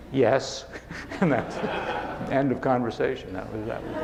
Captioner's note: laughing